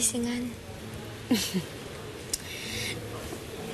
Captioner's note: chuckles